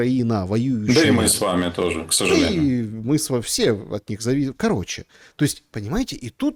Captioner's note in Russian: откашливается